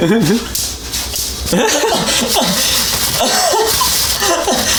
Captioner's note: laughter intensifies